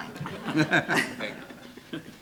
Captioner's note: laughing